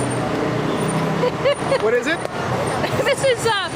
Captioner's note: laughing